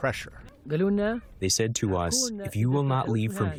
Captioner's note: through translator